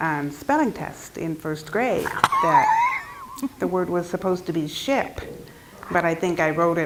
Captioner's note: laugh